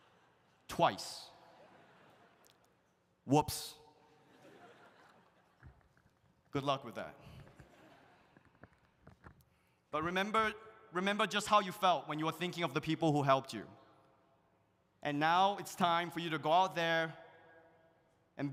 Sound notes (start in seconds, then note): 4.2 audience laughs